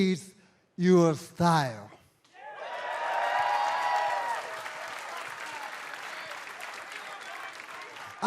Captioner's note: crowd cheering